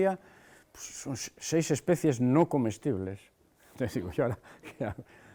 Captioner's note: laughs